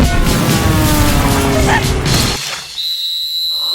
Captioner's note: fireball whirring, volleyball approaching